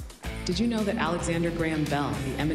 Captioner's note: automated Voice